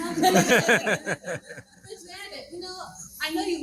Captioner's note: crowd laughing